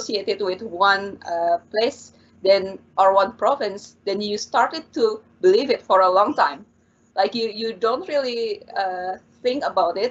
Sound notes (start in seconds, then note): none